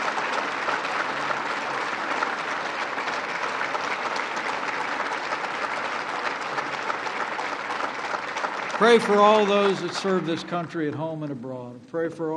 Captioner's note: applause